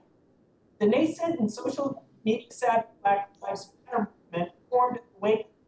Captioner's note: audio cuts in and out